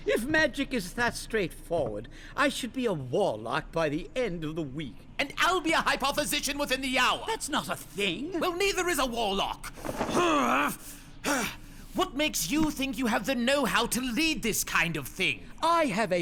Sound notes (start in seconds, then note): 11.2 frustrated grunt